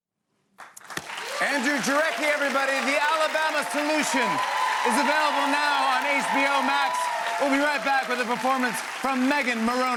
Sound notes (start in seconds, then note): 1.3 cheers and applause